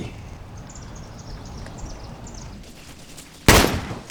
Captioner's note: gun fires